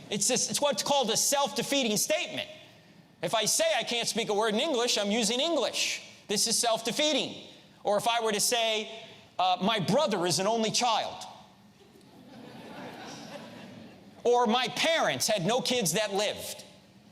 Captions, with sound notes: It's what's called a self-defeating statement. If I say I can't speak a word in English, I'm using English. This is self-defeating. Or if I were to say my brother is an only child. (audience laughs) Or my parents had no kids that lived.